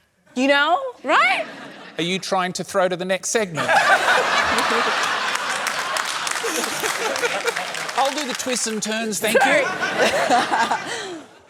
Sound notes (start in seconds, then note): 3.6 laughter, applause